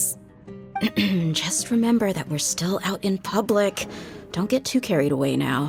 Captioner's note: ahem